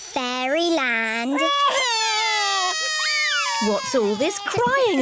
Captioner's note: both crying loudly